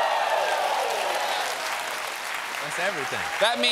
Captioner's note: cheers and applause